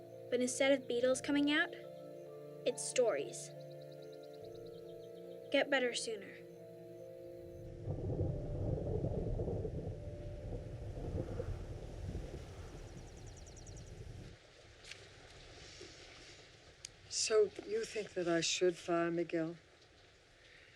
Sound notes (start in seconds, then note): 7.6 thunder rumbling; 14.2 rain pouring loudly